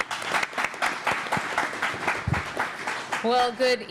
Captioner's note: applause